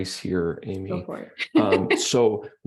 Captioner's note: laughs